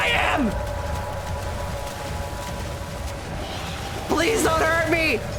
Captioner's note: roaring and splashing and snarling continues